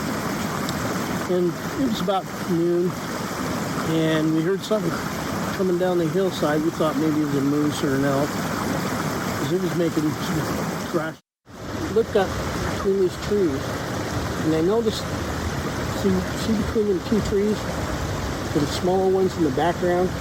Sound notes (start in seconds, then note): 9.3 water splashing drowns out speaker